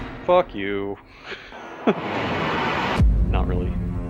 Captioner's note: laughs apologetically